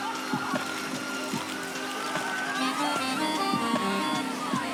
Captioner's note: laughing; calm music